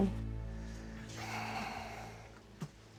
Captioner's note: sighs